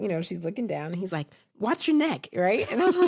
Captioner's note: chuckles